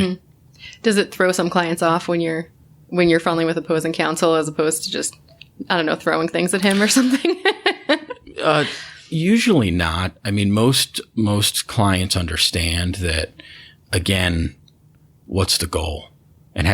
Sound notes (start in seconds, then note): 8.6 laughter